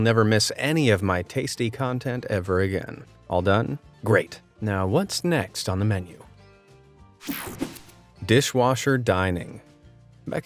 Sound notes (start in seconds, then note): 6.4 light, upbeat music; 7.2 graphics whoosh